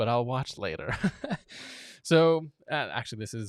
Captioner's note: laughing